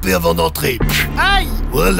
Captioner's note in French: paf